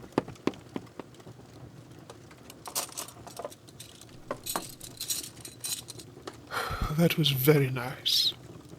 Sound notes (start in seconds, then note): 0.0 footsteps; 2.7 clinking of plates and silverware; 6.5 small sigh